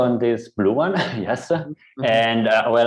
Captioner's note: laughs